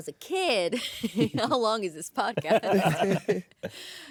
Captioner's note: laughter